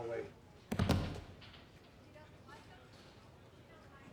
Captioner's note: thudding